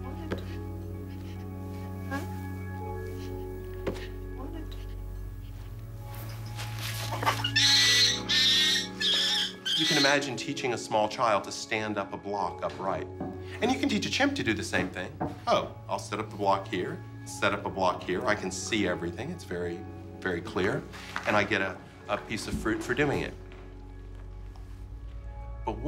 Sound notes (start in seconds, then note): 7.2 screeching